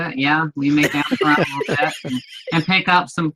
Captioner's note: laughs